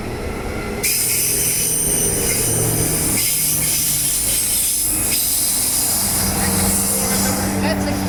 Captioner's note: train wheels screech